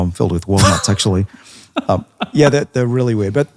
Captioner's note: laughing